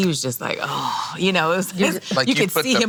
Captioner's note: sighing